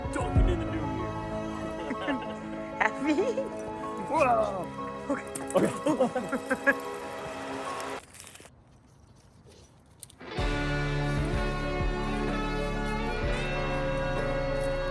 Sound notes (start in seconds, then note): 0.1 chuckles; 6.2 while laughing